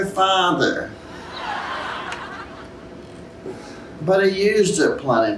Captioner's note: laughter